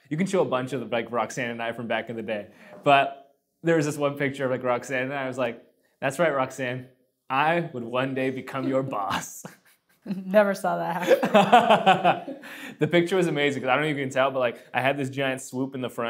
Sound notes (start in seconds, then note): 11.0 laughing